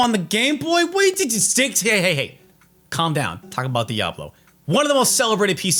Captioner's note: stammering